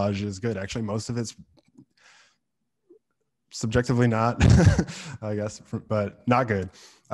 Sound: laughs

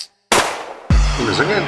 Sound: gunshot

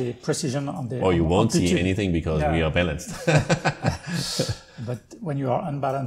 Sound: laugther

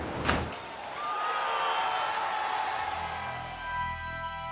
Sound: crowd screaming; dramatic music playing

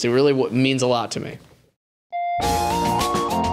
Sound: echoing doorbell sound

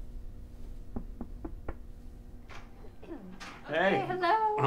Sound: knocking

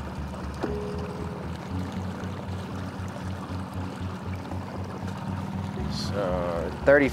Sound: ambient music; water rippling

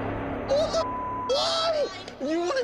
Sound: beep

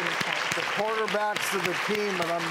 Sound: applause

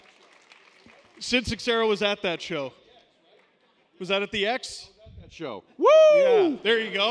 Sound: cheers

